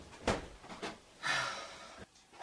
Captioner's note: Richard sighs